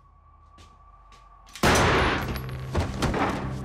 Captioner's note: gun fires; body clunks